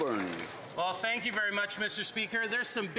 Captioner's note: some Applause